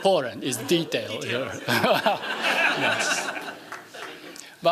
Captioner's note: laughing